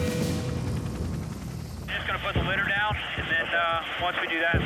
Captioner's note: helicopter rotors thump